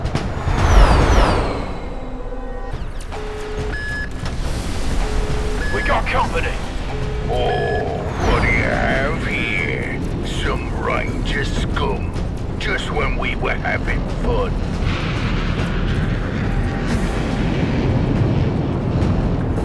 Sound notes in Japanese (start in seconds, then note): 2.7 ビープ音